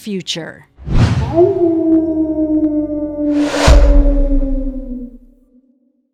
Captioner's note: howling